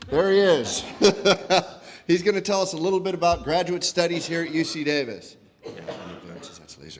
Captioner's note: laugh